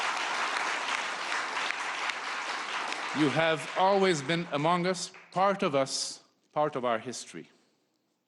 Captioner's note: applause